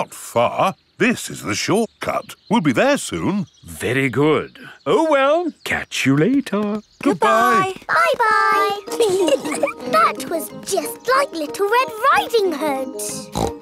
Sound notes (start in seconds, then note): 8.9 giggling; 13.2 snorts